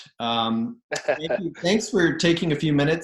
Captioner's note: laughs